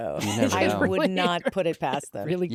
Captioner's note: laughs